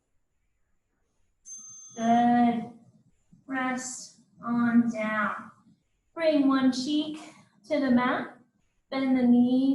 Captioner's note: ding